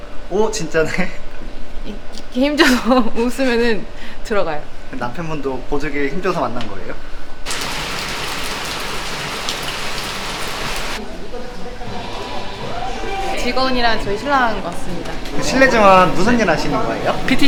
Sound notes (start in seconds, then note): 7.4 rain continues to fall